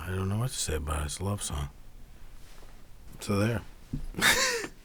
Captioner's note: laughs